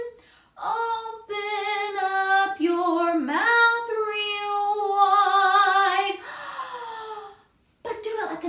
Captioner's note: gasp